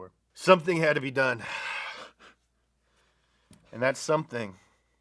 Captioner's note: sniffles